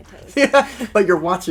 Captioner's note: laughter